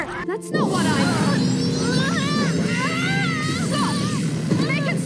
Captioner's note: Glimmer yells in pain